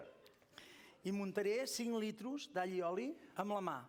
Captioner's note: non-english speech